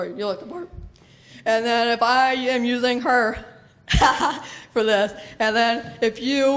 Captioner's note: laughs